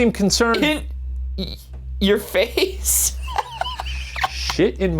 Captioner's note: laughs